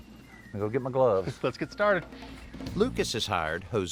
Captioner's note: chuckles